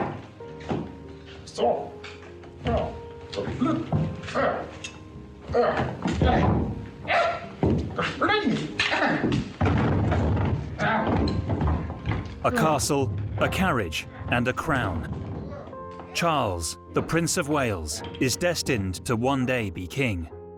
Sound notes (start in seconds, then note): 5.5 groaning; 7.4 shouting